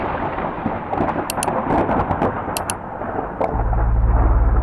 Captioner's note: thunder rumbling; icons popping